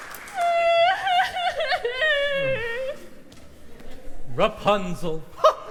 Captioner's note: crying in the distance